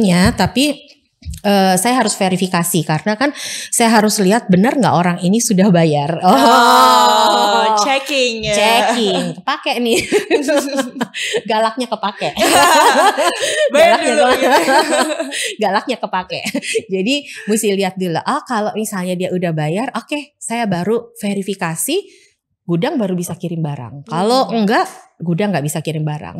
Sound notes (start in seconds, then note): 12.2 laughs